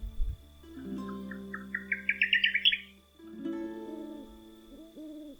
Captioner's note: nocturnal birds singing